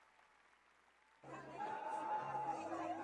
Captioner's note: cheers, applause; audio playback begins